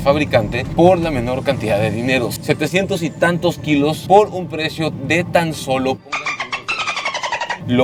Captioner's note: dolphin sound